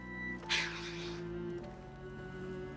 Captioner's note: sigh